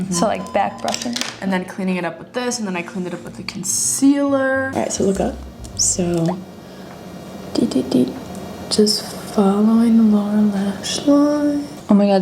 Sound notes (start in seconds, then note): 6.0 tiny tapping